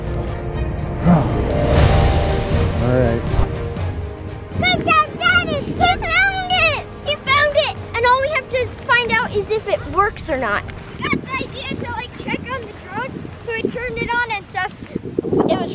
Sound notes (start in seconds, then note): 11.5 distant speaking